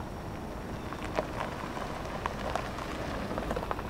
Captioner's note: gravel crunching